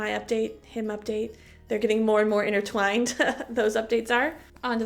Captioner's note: chuckle